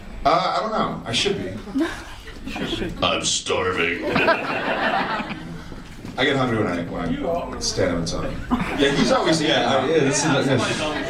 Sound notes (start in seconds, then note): 3.9 audience laughs